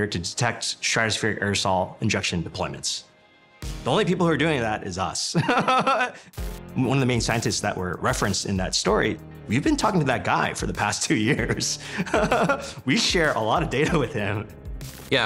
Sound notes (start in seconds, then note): 5.4 laughs; 11.8 chuckles